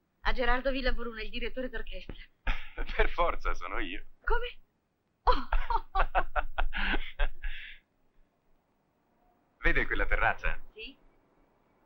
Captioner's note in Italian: Risate